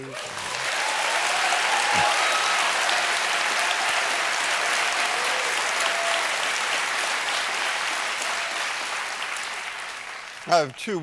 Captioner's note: applause